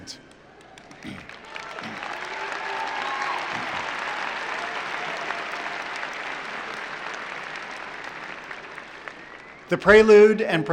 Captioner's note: applause